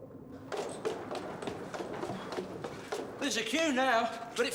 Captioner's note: footsteps on stairs